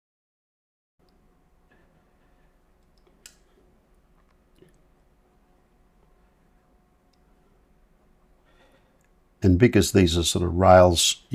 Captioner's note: silence